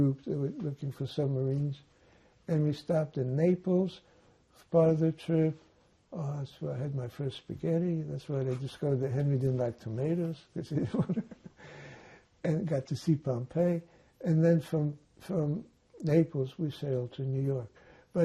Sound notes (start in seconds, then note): 10.6 laughing